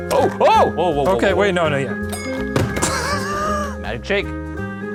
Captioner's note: bottle thumping; men cheering